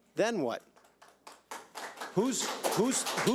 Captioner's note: audience applauds